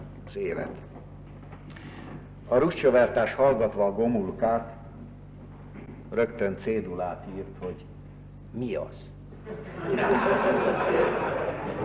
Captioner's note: laughter